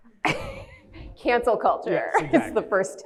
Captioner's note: laughs